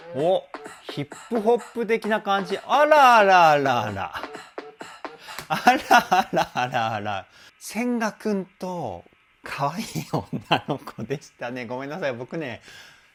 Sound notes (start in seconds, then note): 5.3 laughs